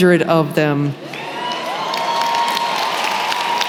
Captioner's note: applause